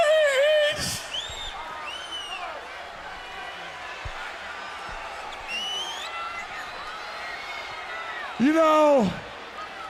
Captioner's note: crowd chatter